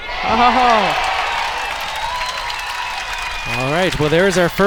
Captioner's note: crowd applauds; groans